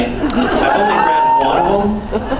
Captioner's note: laughs, cheers